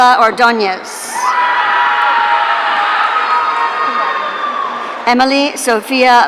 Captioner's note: audience cheering